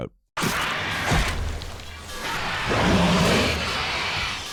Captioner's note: alien grumbles